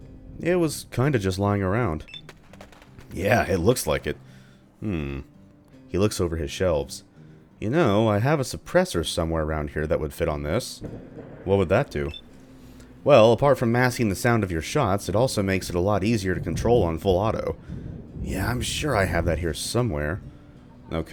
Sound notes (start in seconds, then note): 10.8 thunder; 17.4 thunder